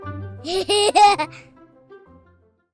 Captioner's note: laughter